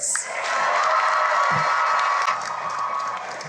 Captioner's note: cheering and applause